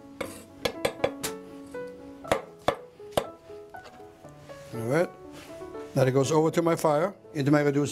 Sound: chopping

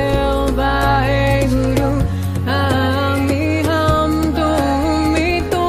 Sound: chanting in foreign language

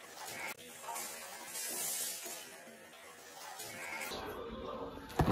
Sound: laughing

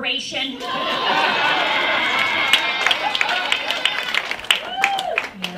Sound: raucous laughter, applause, cheers

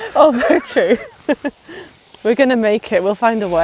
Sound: laughing

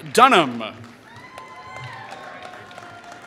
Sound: applause

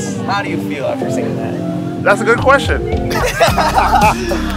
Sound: laughs

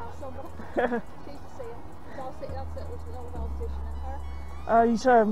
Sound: I laugh

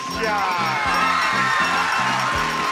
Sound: audience cheering; bell chiming

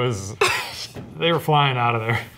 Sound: laughs

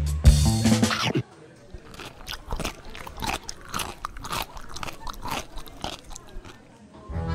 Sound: croissant eating ASMR

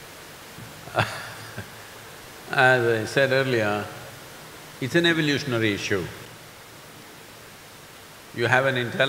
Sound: laughs

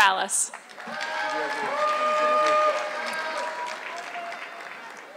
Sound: audience clapping

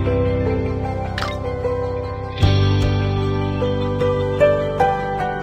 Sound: system Mechanical Sound

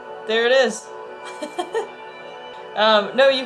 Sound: laughs

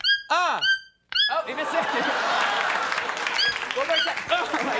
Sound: audience laughing

